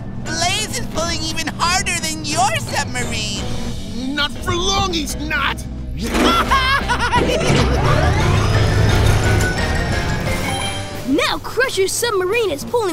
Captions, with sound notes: Blaze is pulling even harder than your submarine! Not for long, he's not! [giggling] Now Crusher's submarine is pulling